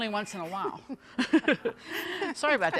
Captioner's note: everyone chuckling